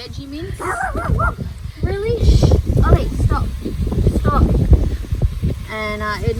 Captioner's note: Ollie barks loudly